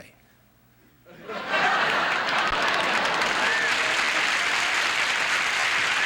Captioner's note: audience laughing and applauding